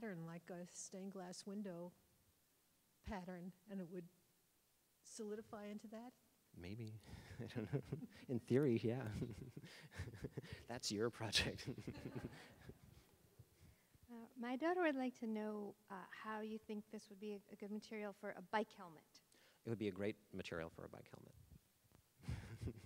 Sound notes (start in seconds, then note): 8.6 laughing; 11.5 all laughing; 22.4 all laughing